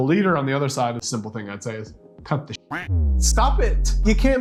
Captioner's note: duck quacking